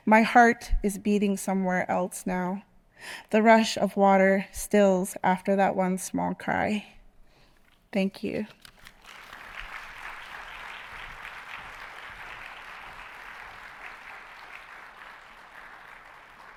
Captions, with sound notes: My heart is beating somewhere else now. The rush of water stills after that one small cry. Thank you. (audience applauding)